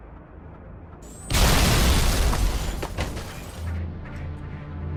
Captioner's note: loud crash